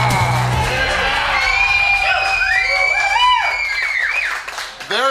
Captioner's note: crowd cheering